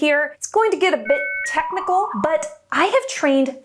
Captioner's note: phone buzzes